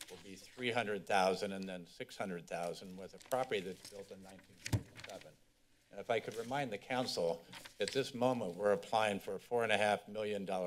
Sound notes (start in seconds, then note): 5.1 papers flipping